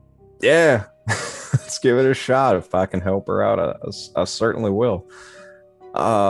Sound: laughs

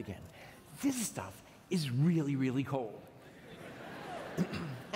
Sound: laughter

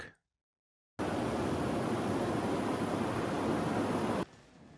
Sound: city buzzing

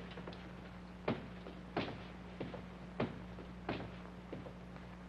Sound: footsteps banging

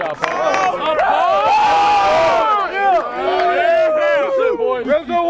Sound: cheering

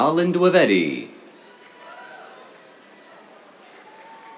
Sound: cheers, applause

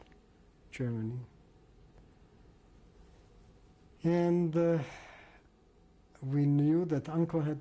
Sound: pauses for 3 seconds

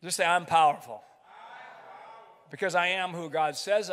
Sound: crowd

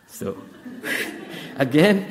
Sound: audience laughs

